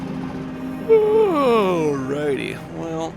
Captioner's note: yawns